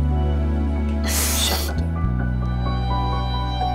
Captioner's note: Asmi sobbing